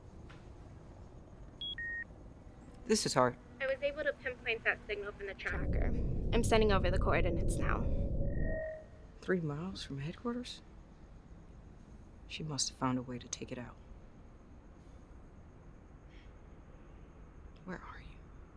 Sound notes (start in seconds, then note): 1.6 signal beeping